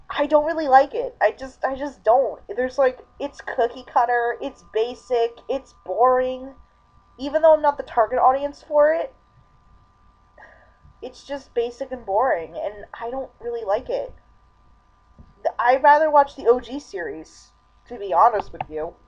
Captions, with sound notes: I don't really like it. I just- I just don't. There's like- it's cookie-cutter, it's basic, it's boring. Even though I'm not the target audience for it... (sighs) it's just basic and boring, and I don't really like it. I'd rather watch the OG series, to be honest with you.